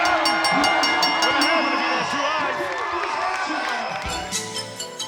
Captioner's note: applause